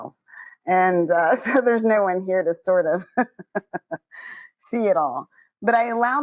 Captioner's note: laughs